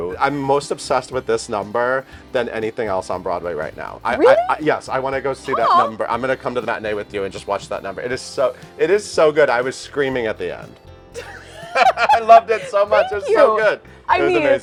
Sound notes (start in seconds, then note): 11.1 both laugh